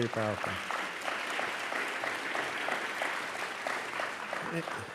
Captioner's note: applause